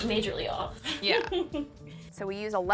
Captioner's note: laughing